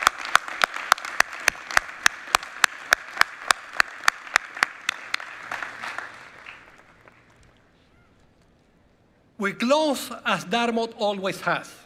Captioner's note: applause